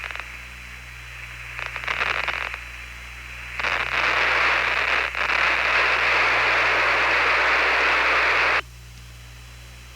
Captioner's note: rolling waves of static